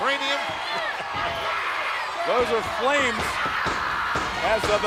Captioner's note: applause